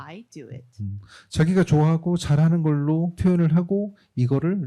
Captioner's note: speaking korean